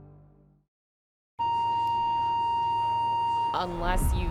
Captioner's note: flatline beeping